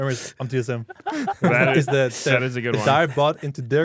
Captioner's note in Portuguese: risos